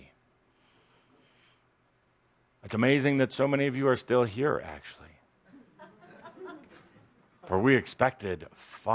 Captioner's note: some laughter